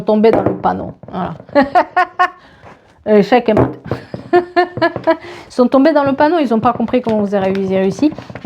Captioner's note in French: rires